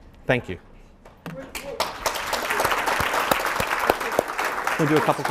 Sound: audience applauding

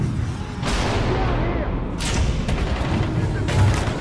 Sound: chaotic sounds of battle

